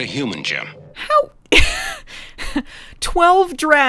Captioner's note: laughs